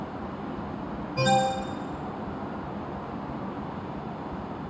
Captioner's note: computer chimes